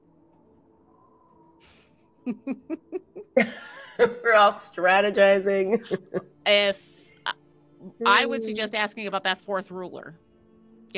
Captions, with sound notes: (laughing) - We're all strategizing. - I would suggest asking about that fourth ruler,